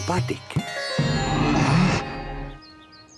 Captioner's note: growling